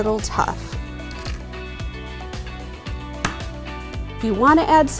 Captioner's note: upbeat music; egg cracks